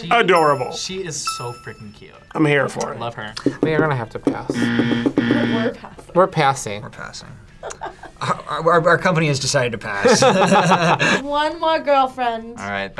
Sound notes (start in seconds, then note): 5.0 laughs; 7.6 React laughs; 10.0 both laugh; 10.0 laughs